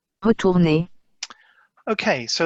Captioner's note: woman speaking in French